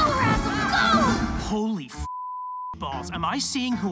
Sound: beep

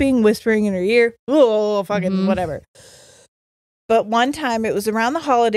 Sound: shudders

